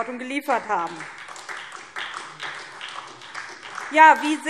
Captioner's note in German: Beifall SPD